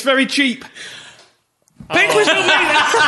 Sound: silence; sighs and laughter

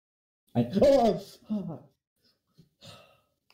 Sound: sigh

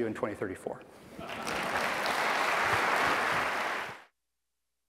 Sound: applause

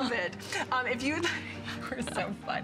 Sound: laughter

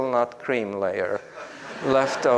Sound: group laughs

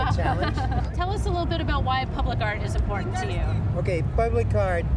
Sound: laughter

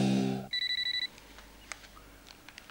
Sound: phone calls

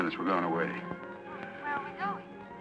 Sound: on phone

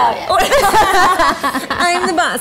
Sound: laughing

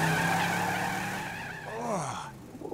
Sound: tires screeching; groaning

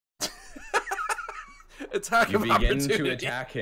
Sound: chuckling

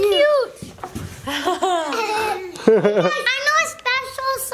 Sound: family giggling

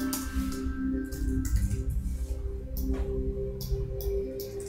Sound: mouse clicking

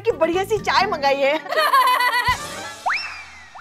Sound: laughing hysterically

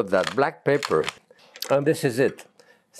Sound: pepper grinding

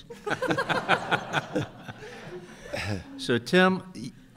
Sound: group laughing

